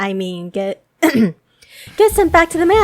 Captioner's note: clears throat